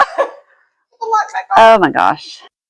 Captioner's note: laughing